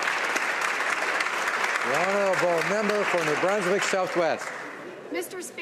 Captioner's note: some Applause